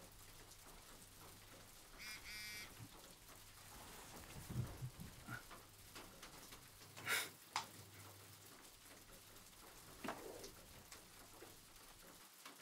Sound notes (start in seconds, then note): 2.1 phone buzzes